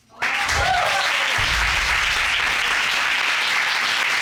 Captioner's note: applause